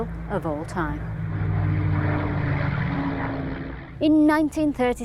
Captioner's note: aeroplane rumbling